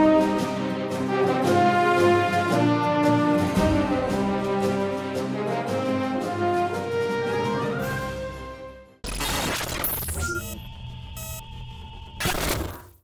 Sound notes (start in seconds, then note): 9.0 glitches; 10.4 spaceship hum